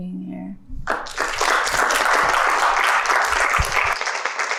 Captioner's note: applause